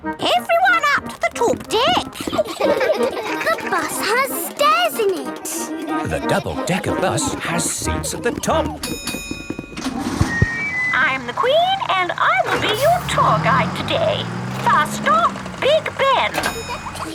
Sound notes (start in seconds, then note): 1.8 kids laughing; 8.8 bell dings